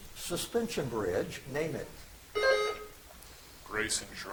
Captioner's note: buzzer chimes